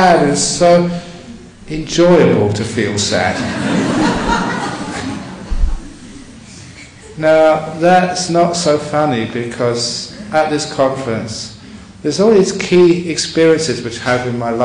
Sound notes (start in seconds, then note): 2.8 audience laughing